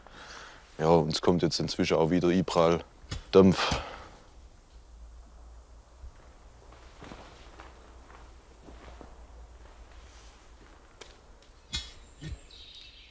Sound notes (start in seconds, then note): 3.8 low hissing